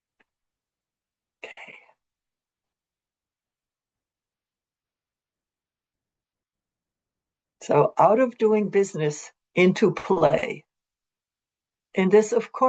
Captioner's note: pause